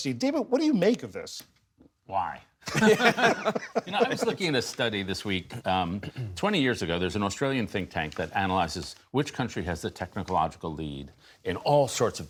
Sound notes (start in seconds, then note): 2.6 laughter